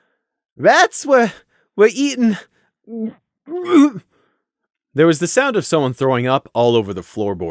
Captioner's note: 'huUgggGGHH'